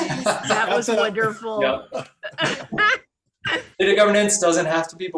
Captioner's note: laughs